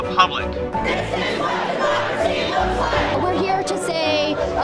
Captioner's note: crowd